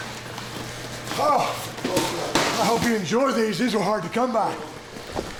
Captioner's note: none